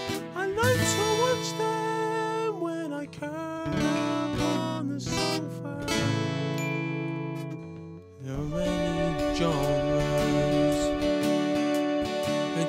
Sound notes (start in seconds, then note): 6.4 ding